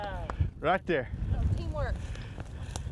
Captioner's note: clapping